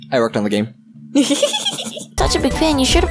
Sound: giggles

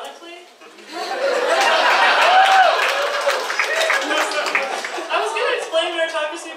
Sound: audience laughs and cheers

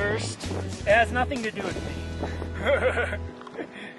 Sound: laughs

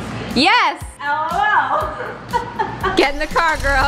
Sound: actually laughs

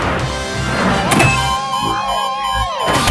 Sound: beeping

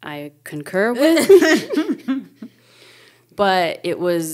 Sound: speakers chuckling

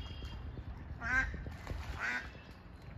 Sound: sounds of ducks fighting

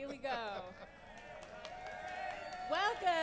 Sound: applause

